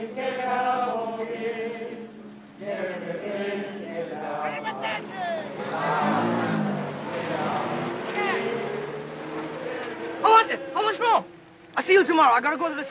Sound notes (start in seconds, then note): 4.8 shouting in foreign language